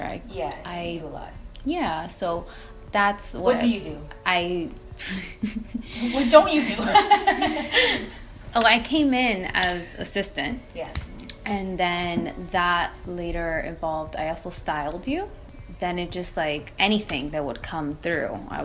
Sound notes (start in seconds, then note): 6.6 laughter